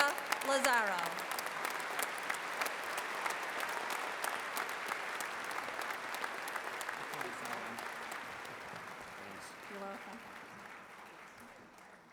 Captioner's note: applause